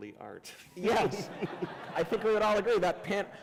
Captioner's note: laughter